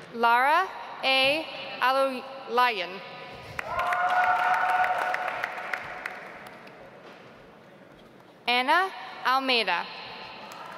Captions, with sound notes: Lara A. AlOlayan. (audience applauds) Anna Almeida.